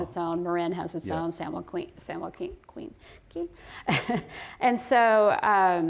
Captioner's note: laughter